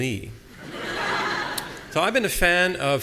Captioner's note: audience laughing